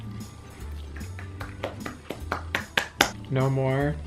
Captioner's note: claps